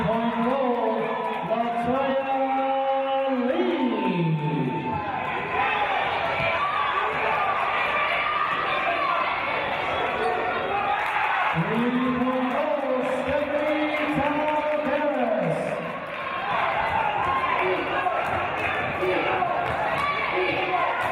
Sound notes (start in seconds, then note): 11.1 cheers and applause